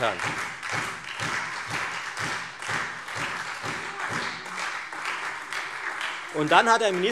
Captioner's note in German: Beifall Freie Demokraten, SPD und vereinzelt DIE LINKE